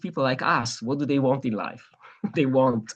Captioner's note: laughs